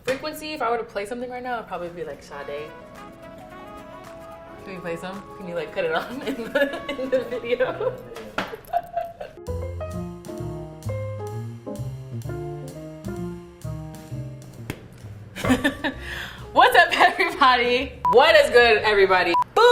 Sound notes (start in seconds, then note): 3.1 chill music; 8.5 laughing; 9.7 jazzy music; 14.6 clapping sweet potatoes; 15.4 laughing